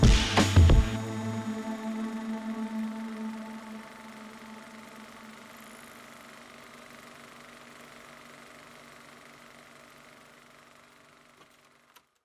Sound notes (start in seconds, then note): 1.4 film projector noise